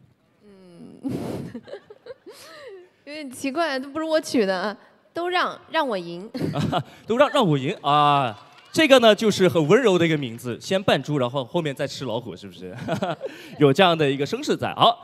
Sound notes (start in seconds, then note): 1.0 giggles